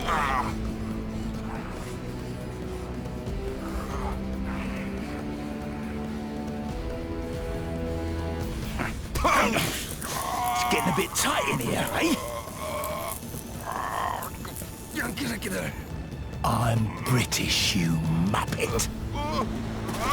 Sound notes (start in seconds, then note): 0.2 dramatic music; 8.6 grunting